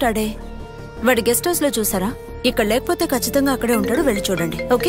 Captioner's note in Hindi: फोन की घंटी बजना